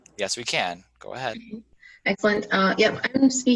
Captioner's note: laughing